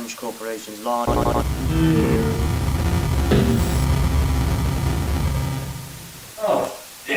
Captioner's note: various glitchy sounds